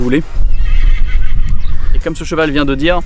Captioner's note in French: hennissement de cheval